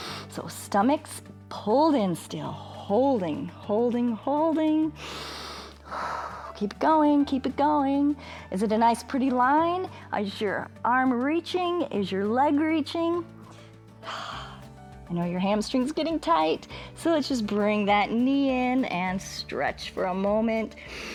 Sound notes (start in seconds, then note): 5.0 inhales and exhales; 14.0 exhales